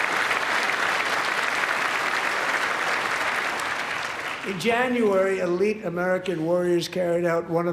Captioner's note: applause